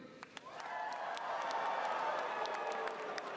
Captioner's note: cheering